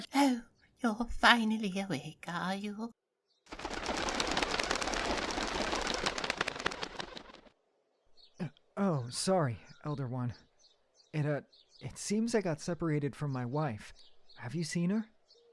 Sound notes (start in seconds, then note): 3.4 wings faintly flap